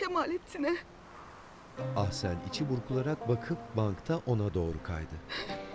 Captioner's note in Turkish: Rüzgâr sesi; Müzik - Duygusal